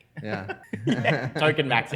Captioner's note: laughter